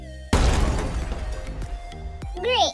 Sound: crash

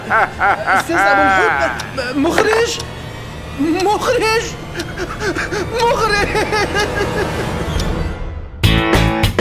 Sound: sobbing

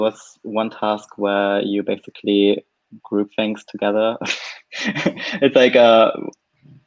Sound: laughs

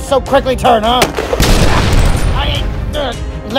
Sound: explosion Sounds

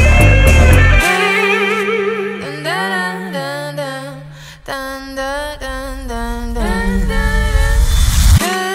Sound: vocalizing

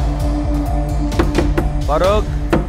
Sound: door knocks

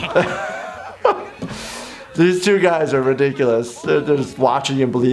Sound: laughter

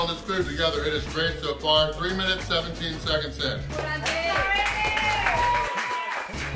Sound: crowd

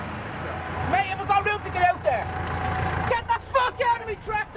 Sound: farmer shouting over engine

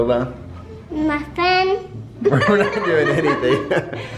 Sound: laughter

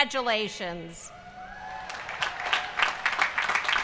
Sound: applause

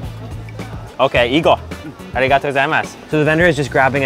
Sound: speaks in foreign language

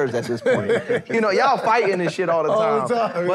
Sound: laughter

